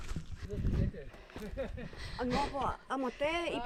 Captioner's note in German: gelächter